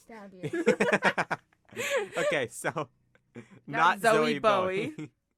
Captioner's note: laughter